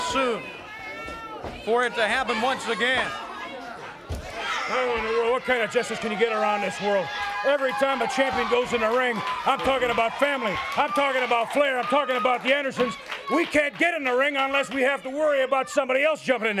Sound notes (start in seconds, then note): 2.3 crowd chatter